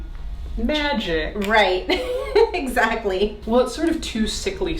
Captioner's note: laughs